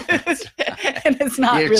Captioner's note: laughing